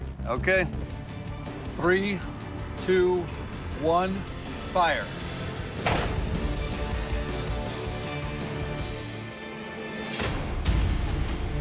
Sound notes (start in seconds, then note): 5.8 gun shot